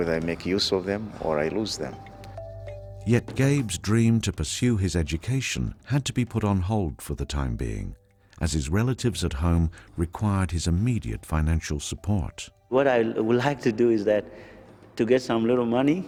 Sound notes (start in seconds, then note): 3.3 voiceover